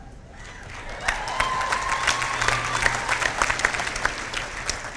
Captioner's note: clapping